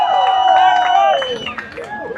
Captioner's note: applause